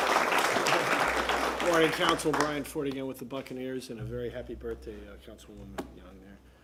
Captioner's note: applause